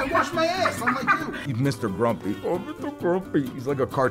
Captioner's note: mimics Mr. Grumpy voice